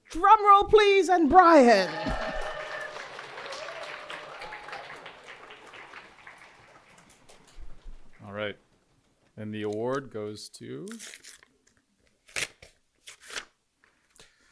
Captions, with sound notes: Drum roll, please. And Brian. (audience cheering) - All right. And the award goes to (paper tearing)